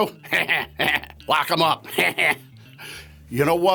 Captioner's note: evil laughter